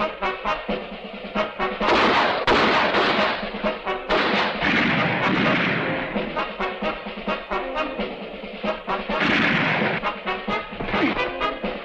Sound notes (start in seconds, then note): 2.1 dramatic music continues; 2.1 guns firing